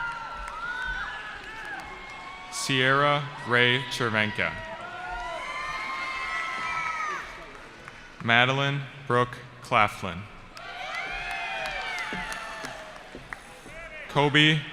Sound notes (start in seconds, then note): 0.0 cheering; 10.5 cheering